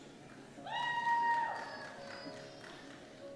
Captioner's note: cheers